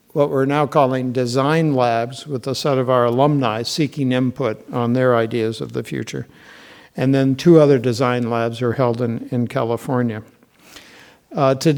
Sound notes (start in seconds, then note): none